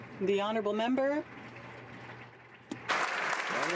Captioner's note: some Applause